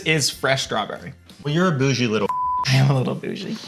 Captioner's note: beep